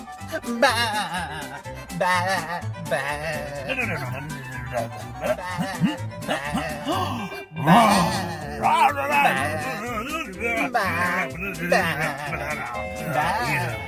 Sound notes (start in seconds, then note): 0.6 bleats; 3.8 grunts; 7.8 clamor